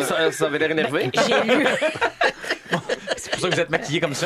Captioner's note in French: rires